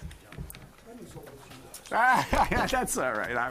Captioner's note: speaking off mic; laughing